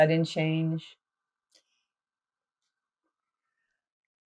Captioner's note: pauses 8 seconds